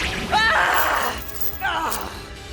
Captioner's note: topaz yells